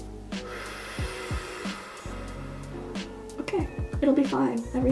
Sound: mouth blowing

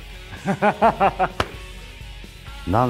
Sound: laughs

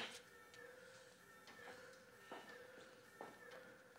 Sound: alarm wailing

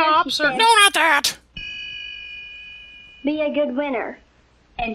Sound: ding!

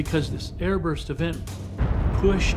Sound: explosion

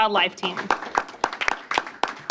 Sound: applause

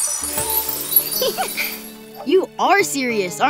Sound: chuckling

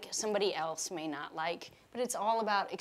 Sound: none

